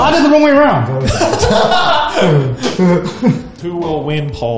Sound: laughs

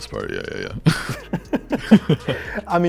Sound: laughter

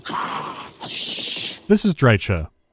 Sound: hisses

